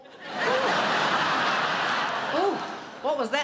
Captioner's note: laughter